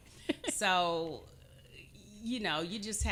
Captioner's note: chuckling